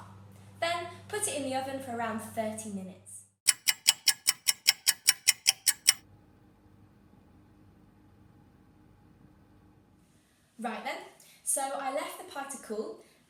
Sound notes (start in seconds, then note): 3.4 ticking clock